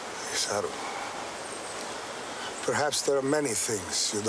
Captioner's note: speaking in foreign language